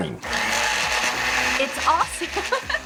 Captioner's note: processor blending; laughs